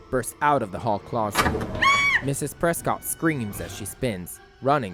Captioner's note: Mrs. Prescott screams as she spins